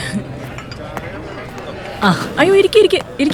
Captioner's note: none